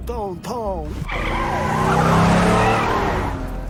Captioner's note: tires screech